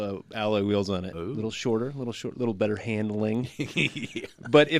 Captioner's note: laughs